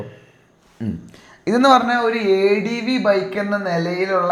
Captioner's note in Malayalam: തൊണ്ട ശരിയാക്കുന്നു